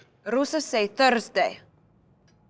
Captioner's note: speaking foreign language